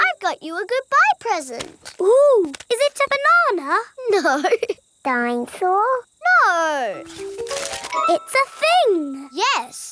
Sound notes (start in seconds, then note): 4.3 laughing